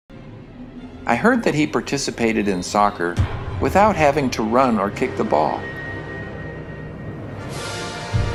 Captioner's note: crowd cheers